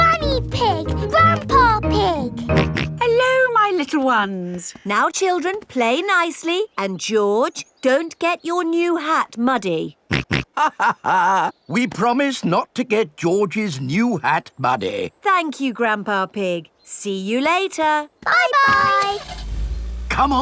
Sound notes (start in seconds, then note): 2.5 snorts; 10.3 snorts; 10.4 chuckles